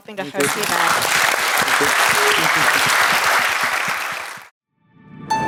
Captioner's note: applause